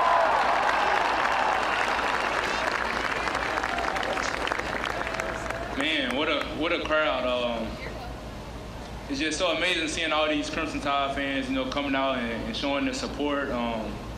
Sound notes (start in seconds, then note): 6.8 applause